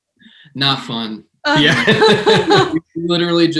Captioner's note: laughter